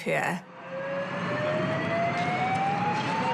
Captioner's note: siren howls